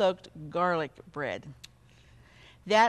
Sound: clicks tongue

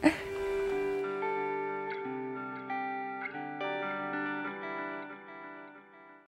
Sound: laughter

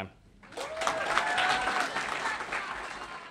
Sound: applause

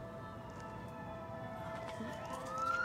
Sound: police sirens

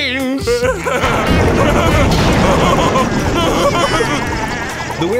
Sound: laughing

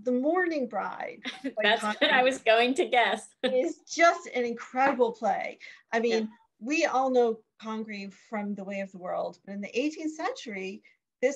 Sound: laughs

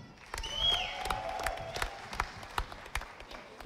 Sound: audience applauding

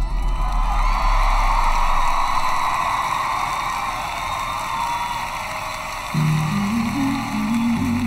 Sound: cheering

